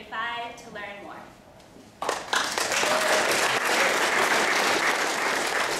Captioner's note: applause